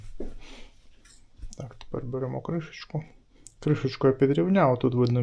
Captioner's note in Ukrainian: сопіння